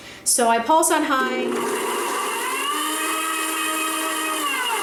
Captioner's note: blender whirs